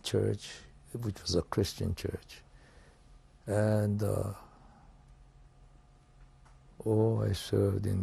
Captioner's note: pauses for 3 seconds